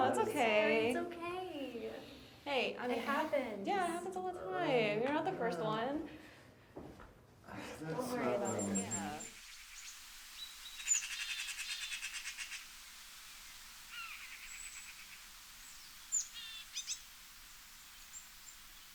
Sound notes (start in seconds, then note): 10.2 birds chirp; 10.2 water flows